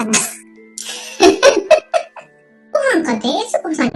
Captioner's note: laughs